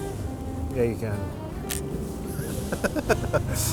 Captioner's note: laughs